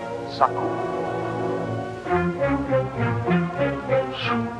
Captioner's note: tribal language spoken audio